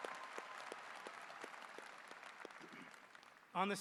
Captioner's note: cheers and applause